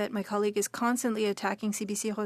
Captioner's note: speaking French